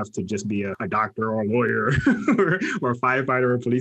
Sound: laughs

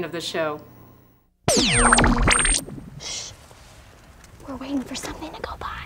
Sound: whispering to Camera

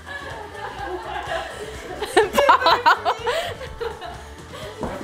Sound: laughing

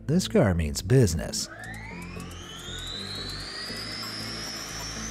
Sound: engine whirring

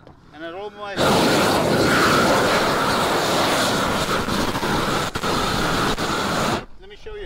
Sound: air whooshes against plastic

